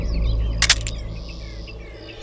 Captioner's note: Gun clicking